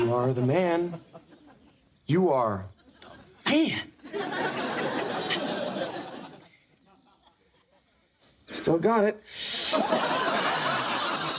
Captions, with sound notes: - You are the man, you are the man. (audience laughing) Still got it. (audience laughing)